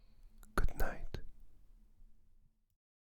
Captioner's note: whispering